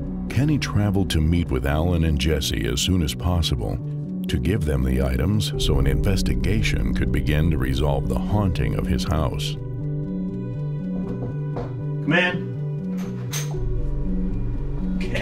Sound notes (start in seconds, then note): 11.0 knocks at the door; 12.8 door opens